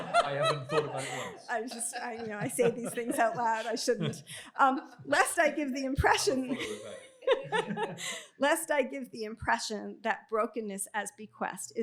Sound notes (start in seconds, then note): 7.2 laughs